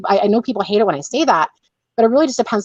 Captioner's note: none